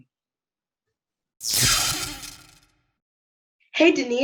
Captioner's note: zap